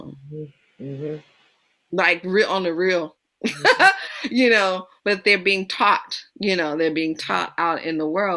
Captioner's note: laughs